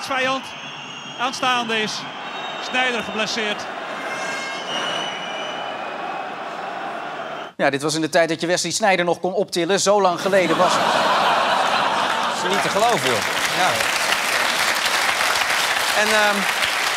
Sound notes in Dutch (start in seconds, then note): 13.6 gelach; 16.7 applaus